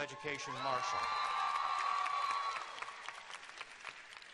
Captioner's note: cheers and applause